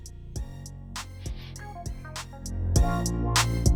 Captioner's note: sniffs; intense music